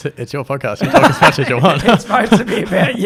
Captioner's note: laughs